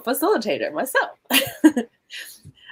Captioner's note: chuckle